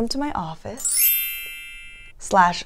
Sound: bells chiming

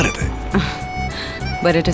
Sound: Ananya laughs

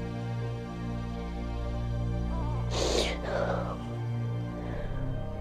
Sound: baby crying

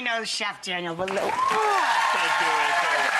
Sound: audience applauds

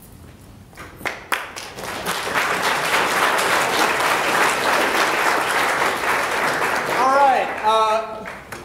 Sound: applause

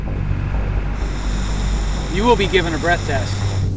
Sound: blowing

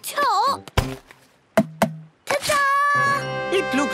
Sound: tapping

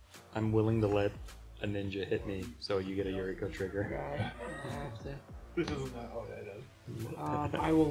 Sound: laughs

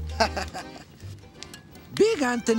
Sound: laughing

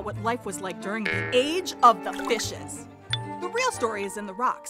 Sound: spring boings

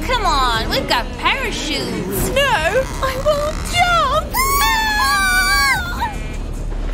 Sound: screaming

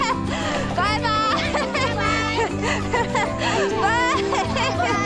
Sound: laughing

